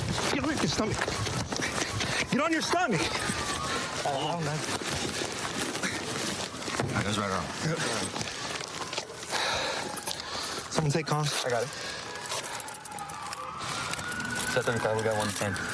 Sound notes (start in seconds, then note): 8.2 sirens in distance; 15.5 sirens grow louder